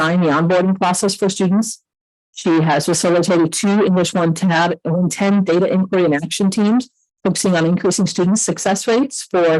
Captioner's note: audio echoing